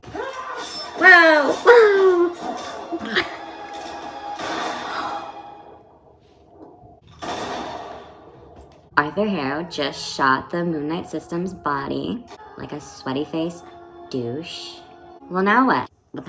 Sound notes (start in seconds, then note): 4.4 gunshot; 7.2 nother gunshot